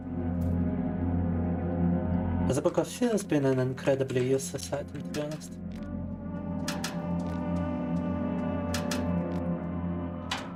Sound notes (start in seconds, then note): 0.1 soft music; 2.5 speaking in foreign language